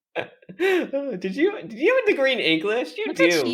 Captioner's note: chuckles